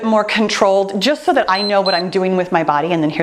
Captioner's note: timer beeps